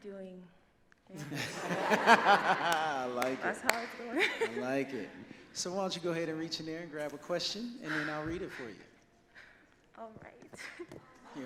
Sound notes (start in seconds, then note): 1.2 audience laughs; 4.7 laughs